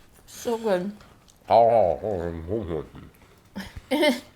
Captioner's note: nomming